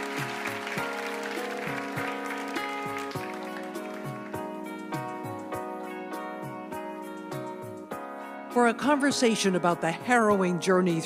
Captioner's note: applause